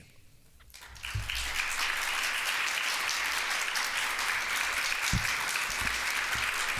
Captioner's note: audience applauds